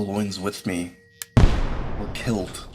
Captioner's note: musket Shot